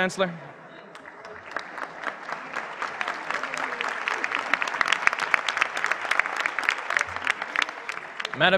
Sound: applause

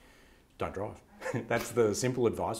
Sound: laughs

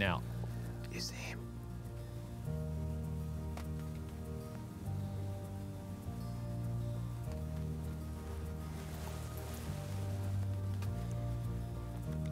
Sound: whispering

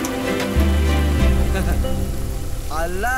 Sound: laugh

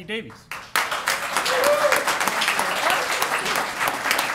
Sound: applause

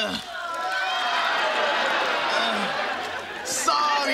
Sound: audience groaning

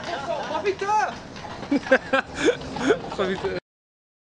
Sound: rire

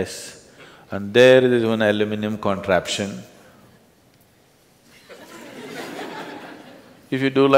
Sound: laughter

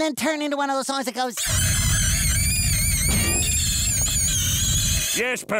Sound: screeching

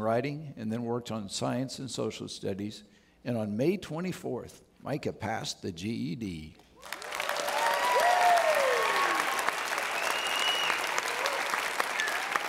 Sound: audience Applauds

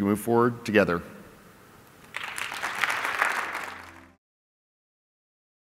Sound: applause

